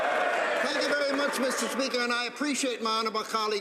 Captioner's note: some Applause